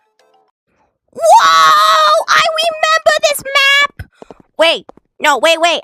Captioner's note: gasp